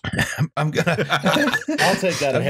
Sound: laughter

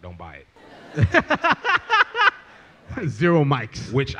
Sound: laughs

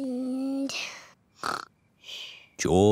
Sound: snores

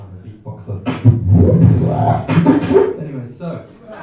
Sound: quick burst of beatboxing

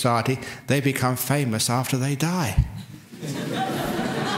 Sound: laughter

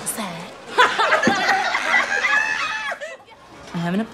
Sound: laughing

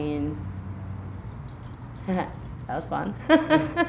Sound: laughing

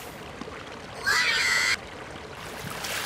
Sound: screm

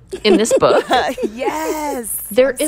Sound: laughter

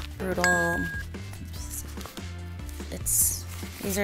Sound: bell dings

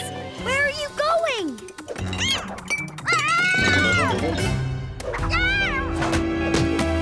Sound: meowing

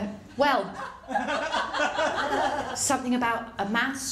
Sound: laughter

